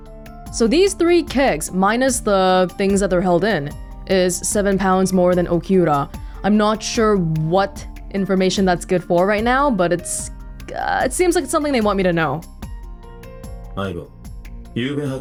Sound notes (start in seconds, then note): none